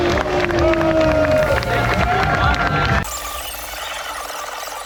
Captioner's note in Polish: Aplauz